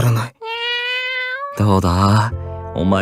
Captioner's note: meow~